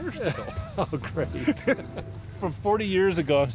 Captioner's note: laughs